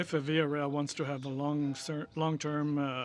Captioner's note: speaking french